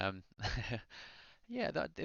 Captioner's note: chuckles